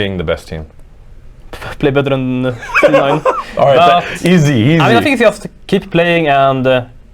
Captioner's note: laughing